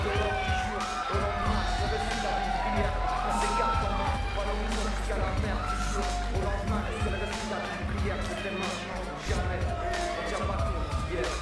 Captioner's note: crowd chatter